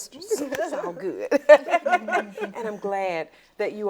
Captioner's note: laughs